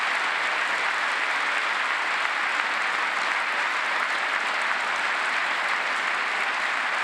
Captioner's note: applause